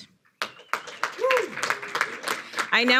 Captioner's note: audience applauding